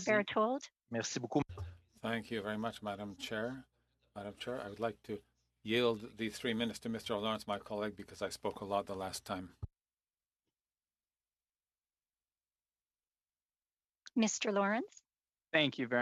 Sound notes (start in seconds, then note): 4.3 speaking FRENCH